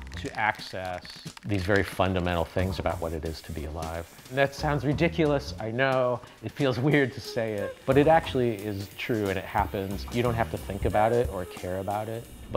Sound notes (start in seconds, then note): 6.9 laughs